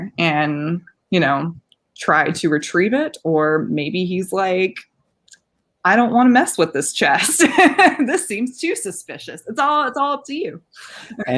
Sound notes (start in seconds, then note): 7.2 laughing